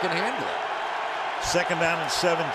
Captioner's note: cheering